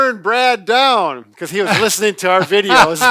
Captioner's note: laughs